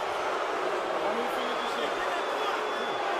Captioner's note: crowd booing